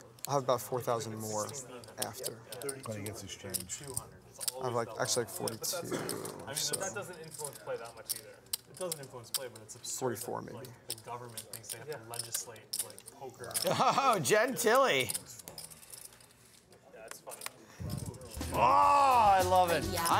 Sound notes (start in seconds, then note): 13.6 laughs